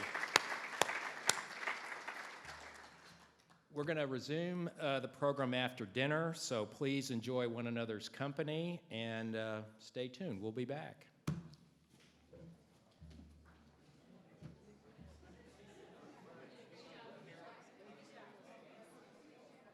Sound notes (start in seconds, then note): 0.0 everybody applauds; 12.0 hand tapping; 13.9 indistinct background chatter